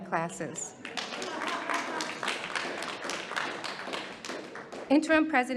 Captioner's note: audience applauding